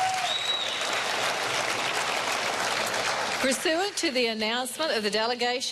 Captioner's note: cheering and applause